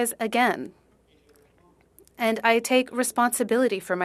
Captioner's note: speaking French